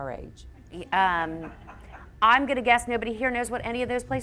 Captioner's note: audience members laugh